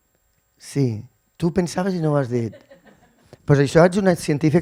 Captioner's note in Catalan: rialles